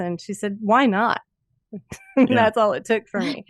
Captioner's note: chuckles